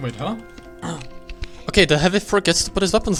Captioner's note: grabs mic aggressively